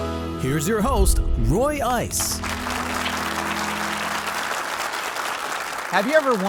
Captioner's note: audience applauding